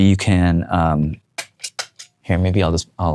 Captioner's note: switches flipping